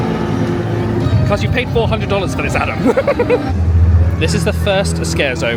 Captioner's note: laughs